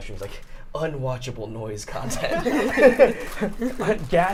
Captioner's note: all laughing